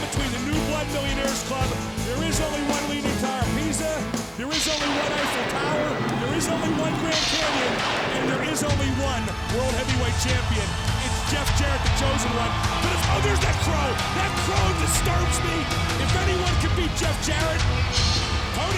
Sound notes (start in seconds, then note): 4.4 thunder rumbles; 10.3 dramatic music